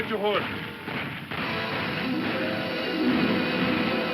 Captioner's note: guns firing; dramatic music